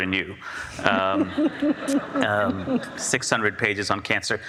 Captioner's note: audience laughs